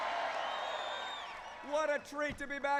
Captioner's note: cheers